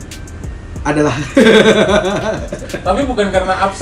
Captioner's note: laughter